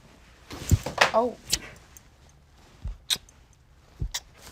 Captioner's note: lips smacking